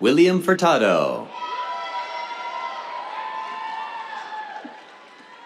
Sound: cheers, applause

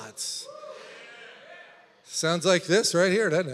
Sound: congregation yelling

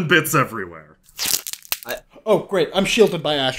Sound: really gross meaty sound

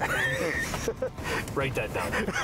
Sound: laughter

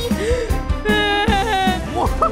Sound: cries/wails

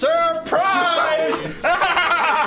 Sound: laughter

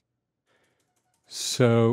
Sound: keyboard typing

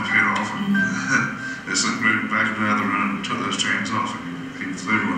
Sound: laugh

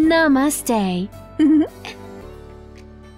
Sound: laughs softly; soft music

